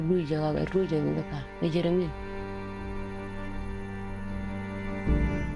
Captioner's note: speaking in foreign language